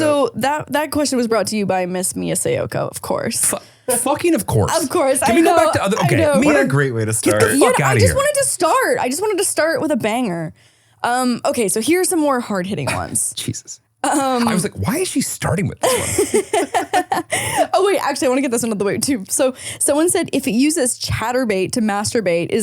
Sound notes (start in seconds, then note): 15.8 laughing